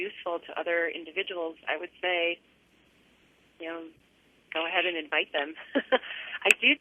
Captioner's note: laughter